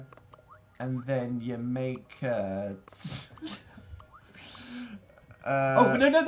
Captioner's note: laughing